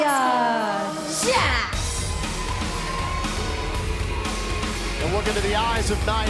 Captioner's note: crowd cheering